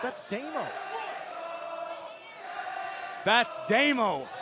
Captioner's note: crowd cheering